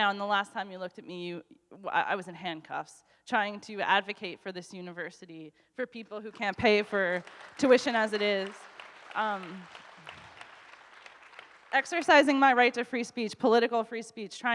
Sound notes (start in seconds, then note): 8.6 audience applauds